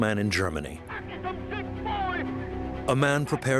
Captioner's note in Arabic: الصوت المنطوق باللغة الألمانية